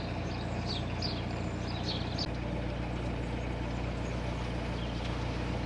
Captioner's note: birds chirping